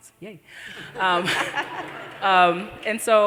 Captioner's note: laughter